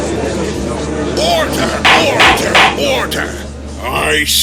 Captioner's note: gallery chattering; gavel slams!